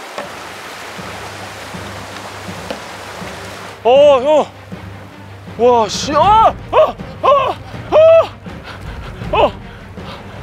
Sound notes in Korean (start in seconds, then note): 7.2 비명; 7.8 괴성